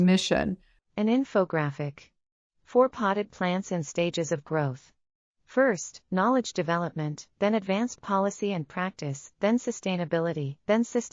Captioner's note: audio Description being read